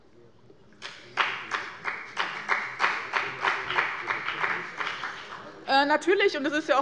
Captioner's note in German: Beifall bei dem BÜNDNIS 90/DIE GRÜNEN und der CDU